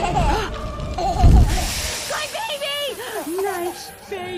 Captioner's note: gasp